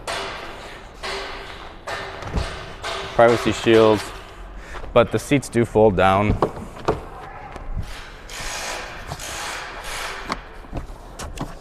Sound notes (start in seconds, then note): 0.0 tool clangs; 6.7 door opens; 9.1 tool buzzes